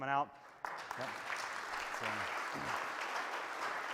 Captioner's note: applause